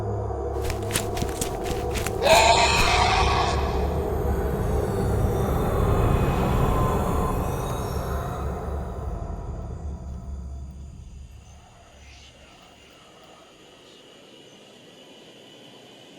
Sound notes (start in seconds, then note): 0.5 footsteps patter quickly; 2.1 creature shrieks; 5.6 haunting music; 11.7 soft tense music